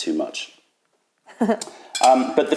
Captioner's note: laughter